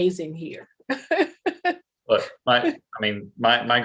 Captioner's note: laughs